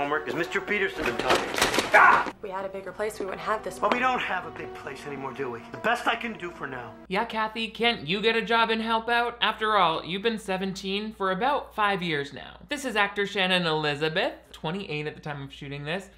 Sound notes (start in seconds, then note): 1.8 Arthur yells